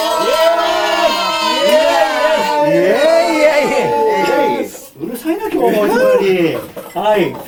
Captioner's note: laughs